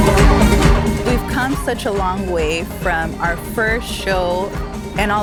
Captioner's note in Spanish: en inglés